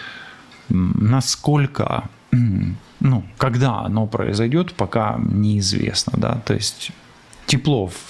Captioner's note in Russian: откашливается